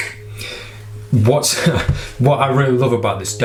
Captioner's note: laughing